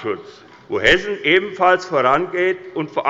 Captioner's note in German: none